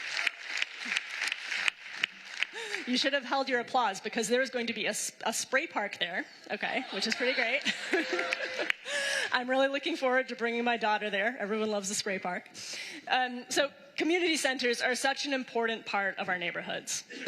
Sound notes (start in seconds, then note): 6.9 applause